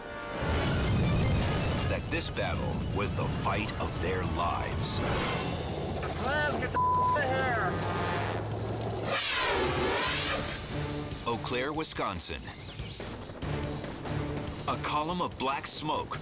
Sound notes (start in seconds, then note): 0.3 scene swooshing; 8.9 scene swooshing